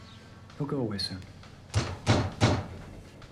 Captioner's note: pounding on door